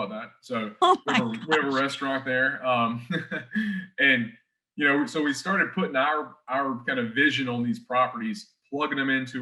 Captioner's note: chuckles